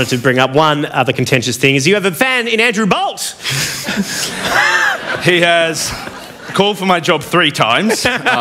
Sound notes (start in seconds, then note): 3.5 laughter